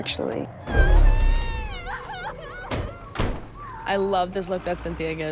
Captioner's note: cries